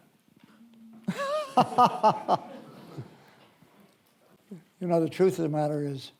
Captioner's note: laughs